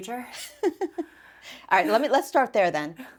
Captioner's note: laughs